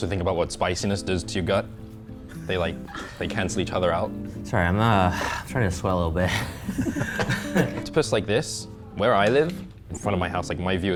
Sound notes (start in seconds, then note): 6.2 chuckles